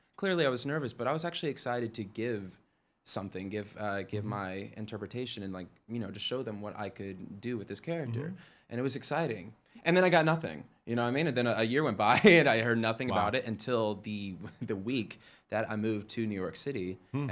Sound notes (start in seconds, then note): 12.1 chuckles